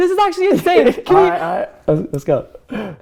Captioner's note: laughing